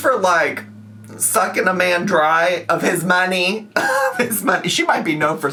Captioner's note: laughing